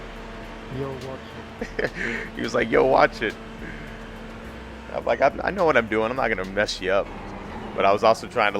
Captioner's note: haha